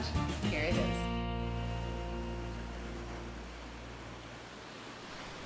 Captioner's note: sounds of the ocean